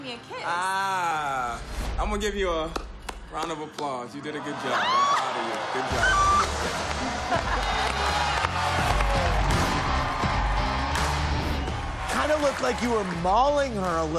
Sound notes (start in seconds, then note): 2.7 clapping; 3.8 audience gasping; 7.1 audience laughing, applauding